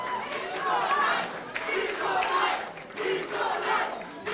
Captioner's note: audience chanting